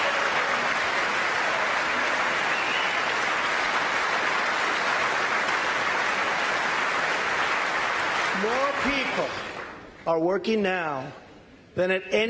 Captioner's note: applause